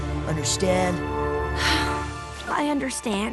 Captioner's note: sigh